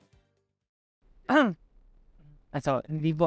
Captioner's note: coughs